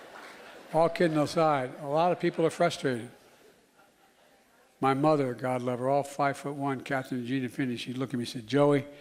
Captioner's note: laughter